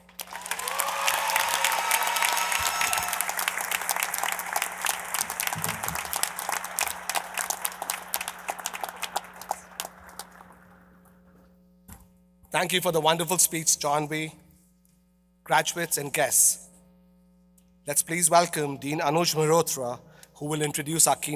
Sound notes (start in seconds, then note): 5.8 applause